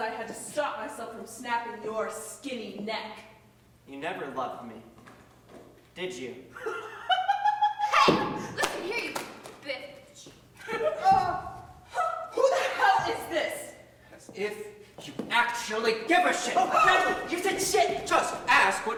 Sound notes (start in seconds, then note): 6.6 Charlotte laughs; 7.9 May's finger falls. Multiple moans